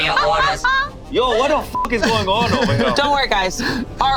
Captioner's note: beep